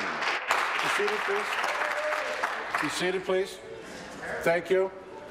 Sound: applause

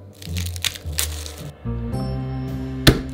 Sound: garlic paper rustling

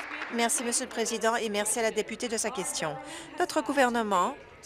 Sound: applause

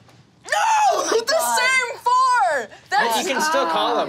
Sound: groans

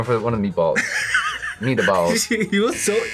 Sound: laughs

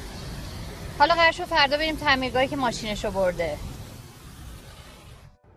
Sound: water splashing

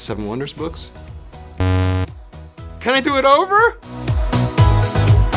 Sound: buzz

